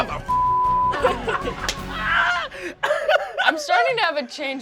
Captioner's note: laughter